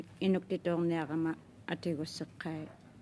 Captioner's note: speaking French